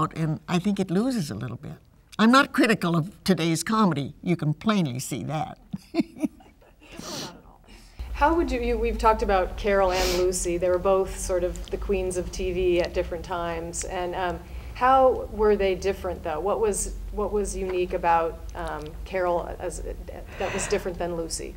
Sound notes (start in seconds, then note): 5.6 laughs